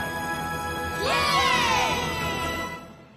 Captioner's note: cheering